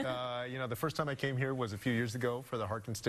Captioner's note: chuckling